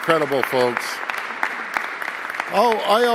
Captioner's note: applause